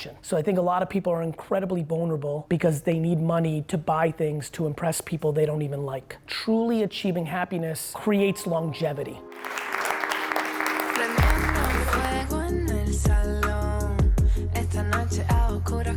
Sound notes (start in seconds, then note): 9.3 audience applauding; 11.3 mellow Spanish music